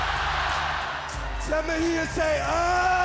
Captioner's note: crowd cheering